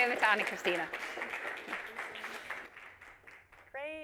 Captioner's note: audience applauds